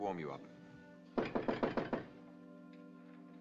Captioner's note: knocking